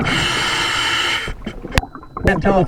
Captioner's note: water burbling; regulator hissing